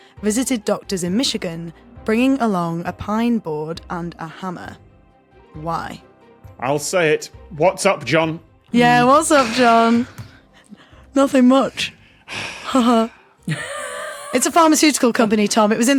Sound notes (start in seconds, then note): 12.2 guffaws; 12.2 wheezes; 13.4 sighs